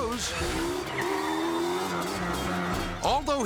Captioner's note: ATV whirring